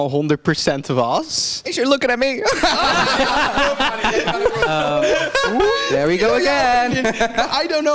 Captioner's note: girls gaggle